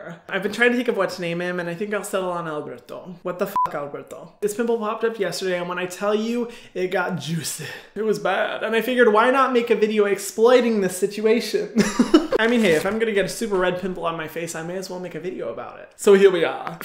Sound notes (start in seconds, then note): 3.5 beep; 11.8 laughing